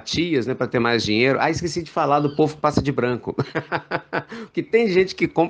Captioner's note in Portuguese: risos